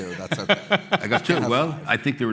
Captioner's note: laughter